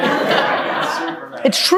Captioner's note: group laughing